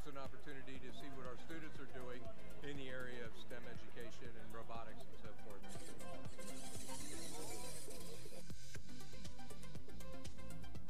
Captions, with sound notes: an opportunity to see what our students are doing in the area of STEM education and robotics and so forth. (engine whirring)